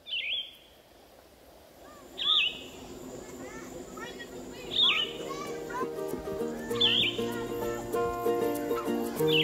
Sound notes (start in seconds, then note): 0.0 bids chirping; 1.8 birds chirping; 2.7 children talking; 4.6 bird chirps; 5.1 children talking; 6.7 birds chirping; 9.2 birds chirping